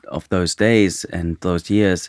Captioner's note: none